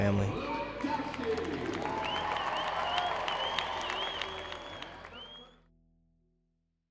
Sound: cheering

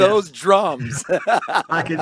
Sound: laughs

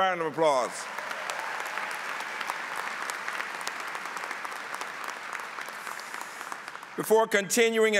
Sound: applause

